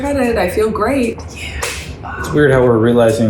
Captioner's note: hands clapping